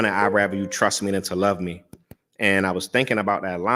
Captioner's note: none